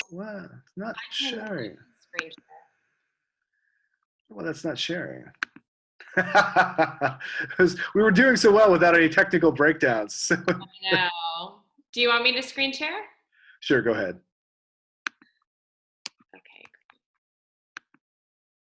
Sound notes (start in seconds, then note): 6.1 laughs; 10.3 laughs